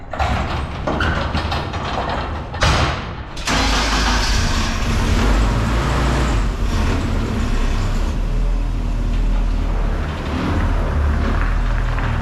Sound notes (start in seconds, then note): 0.0 metal clattering; 3.4 engine starting